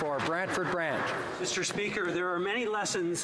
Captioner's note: some Applause